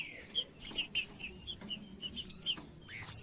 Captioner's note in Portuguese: trinca ferro cantando